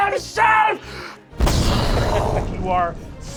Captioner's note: explosion